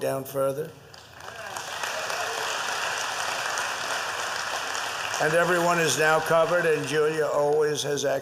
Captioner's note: applause